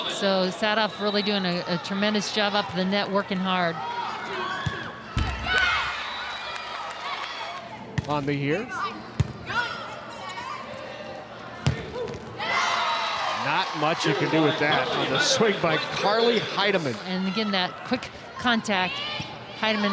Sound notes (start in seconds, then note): 5.1 ball thumping; 5.1 audience cheering; 11.6 ball thumping; 12.4 audience cheering